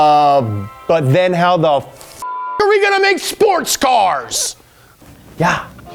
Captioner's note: beeps